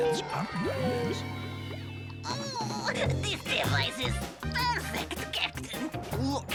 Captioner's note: Lizbeth sighing dreamily; normal voice